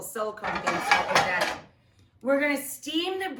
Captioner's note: pan clangs